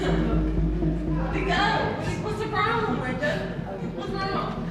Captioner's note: women chattering